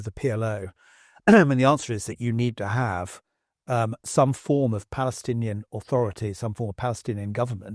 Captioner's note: cough